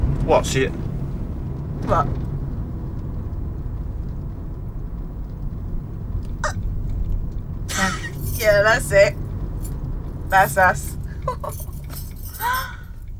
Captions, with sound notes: What, so it... What? [laughs] Er, yeah. That's it. That's us. [laughs]